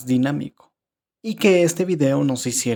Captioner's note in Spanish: Silencio